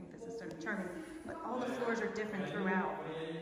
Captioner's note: chatting